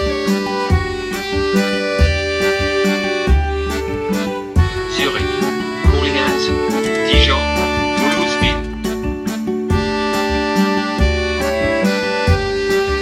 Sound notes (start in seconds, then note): 5.4 train conductor speaking in foreign language; 10.1 playful music